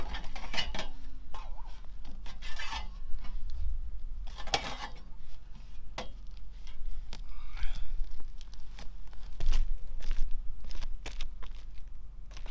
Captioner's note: footsteps